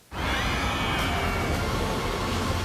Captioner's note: riders screaming